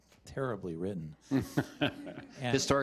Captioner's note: laughter